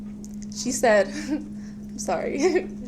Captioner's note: nervous laughter